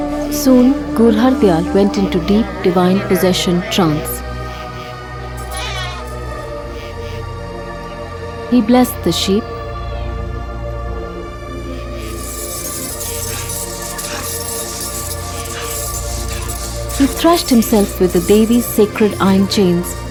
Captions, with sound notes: Soon, Gur Hardayal went into deep divine possession trance. (mysterious music) He blessed the sheep. (mysterious music) (chain clanking) He thrashed himself with the Devi’s sacred iron chains,